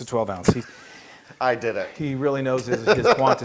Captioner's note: laugh